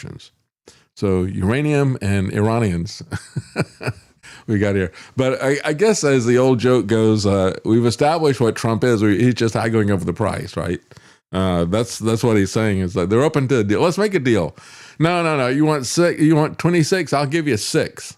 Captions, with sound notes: So uranium and Iranians. (Laughs) We got here. But I guess as the old joke goes, we've established what Trump is. He's just haggling over the price, right? That's what he's saying. They're open to a deal. Let's make a deal. No, no, no, you want 26, I'll give you six.